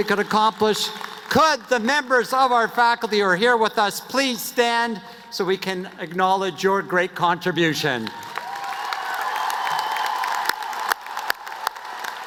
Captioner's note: cheers and applause